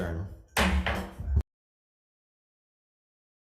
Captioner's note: gavel thumps